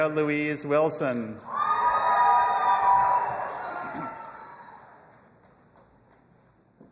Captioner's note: audience applauding and cheering